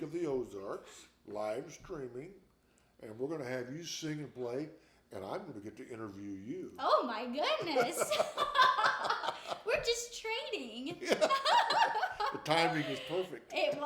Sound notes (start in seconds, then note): 7.6 both laughing